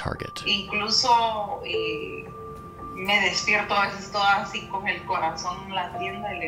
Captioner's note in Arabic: تتحدث بلغة أجنبية